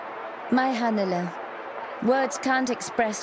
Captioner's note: speaking foreign language